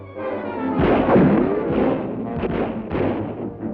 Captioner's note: guns fire